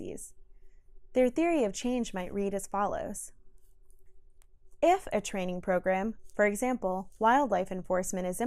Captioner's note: click